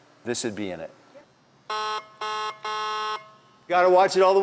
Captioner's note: honk Honk